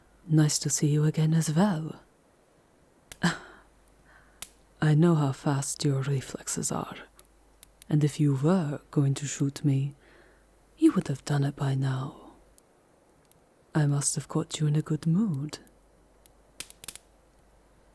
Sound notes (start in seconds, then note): 3.2 laughing softly